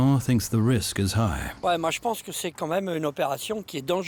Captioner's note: speaking French